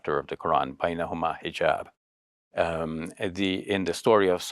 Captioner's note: speaking Arabic